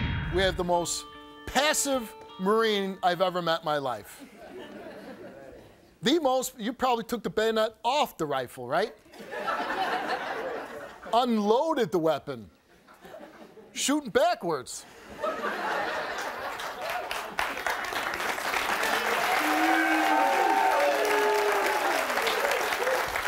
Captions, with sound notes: We have the most passive marine I've ever met in my life. (audience laughs) The most, you prolly took the bayonet off the rifle, right? (audience laughs) Unloaded the weapon. Shootin' backwards. (audience laughs) (audience applauds)